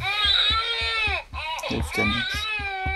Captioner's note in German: Baby schreit